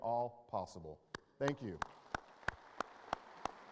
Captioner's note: applause